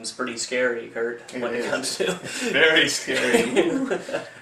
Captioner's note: laughs